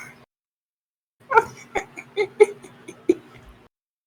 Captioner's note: what is this laugh lmao scooby doo ass laguhtersfhiugsfg